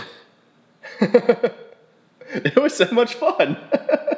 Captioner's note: laughing